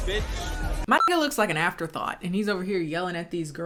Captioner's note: beep